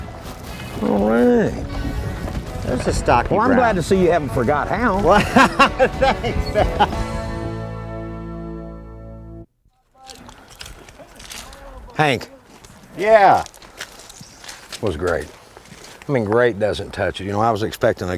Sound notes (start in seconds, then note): 4.8 laughter